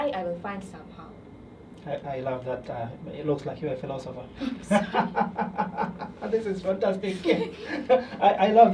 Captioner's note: laughter